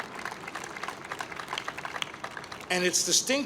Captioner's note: applause